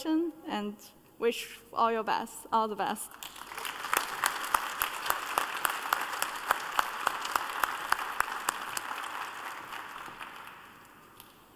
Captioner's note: applause